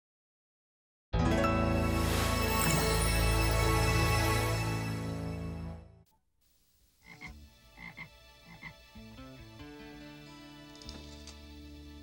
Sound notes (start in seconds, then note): 7.0 frog croaking; 9.2 upbeat music